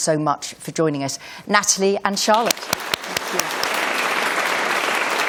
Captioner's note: applause